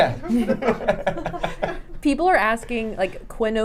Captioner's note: laughs